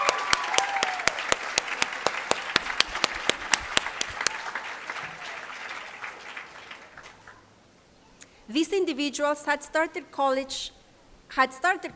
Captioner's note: applause